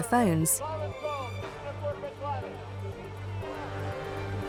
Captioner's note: traders clamoring